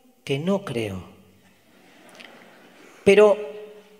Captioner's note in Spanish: Audience laughs